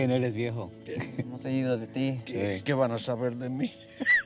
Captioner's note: speaking spanish